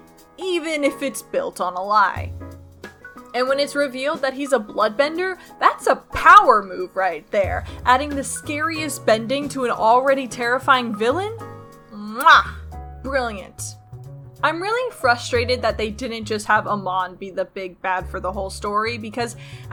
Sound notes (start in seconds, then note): 12.1 muah